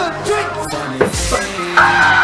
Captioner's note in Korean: 부딪힘